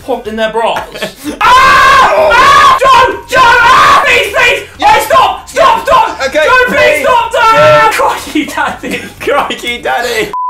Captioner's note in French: rire